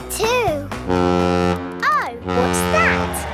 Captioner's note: horn bellowing